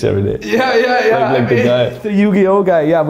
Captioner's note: laughs